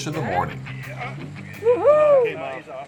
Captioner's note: whooping